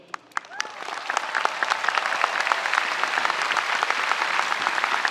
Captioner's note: audience applauding